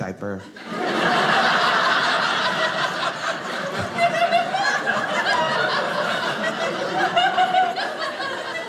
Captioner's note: audience laughing